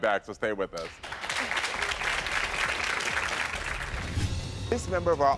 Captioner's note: audience applauding